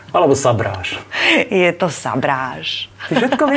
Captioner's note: laughs